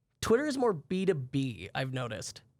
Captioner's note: none